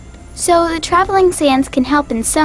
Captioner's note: voiceover